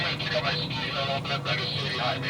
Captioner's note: radio